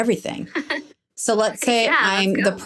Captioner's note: laughing